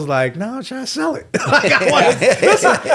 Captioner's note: all laughing